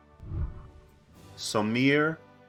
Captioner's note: whooshing